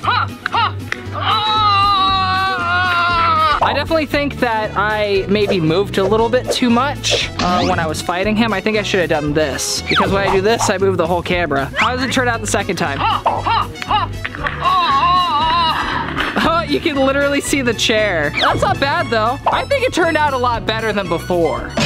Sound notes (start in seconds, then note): 0.3 fighting sound; 2.1 groans; 13.2 fighting sound; 13.5 groans